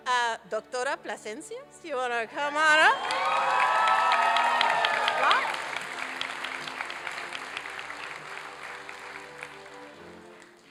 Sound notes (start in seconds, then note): 2.5 applause and cheering; 9.1 classical orchestral music